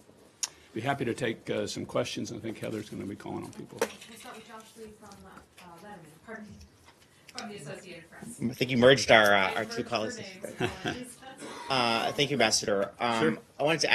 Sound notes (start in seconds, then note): 10.5 laughter